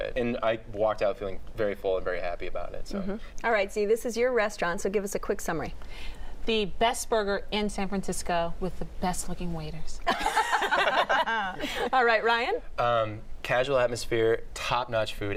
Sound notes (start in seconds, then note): 10.0 laughter